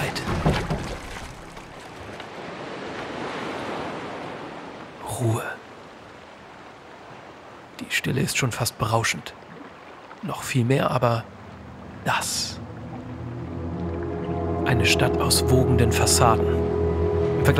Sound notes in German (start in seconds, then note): 0.0 Plätschern; 2.9 Wellenrauschen; 16.3 Unheilvolle Musik